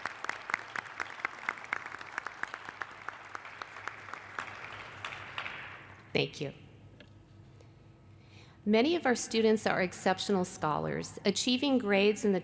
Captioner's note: applause